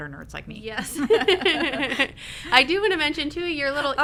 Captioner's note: both laugh